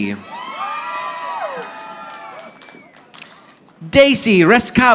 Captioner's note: audience applauding